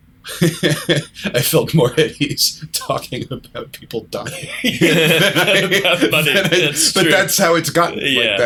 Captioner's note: laughter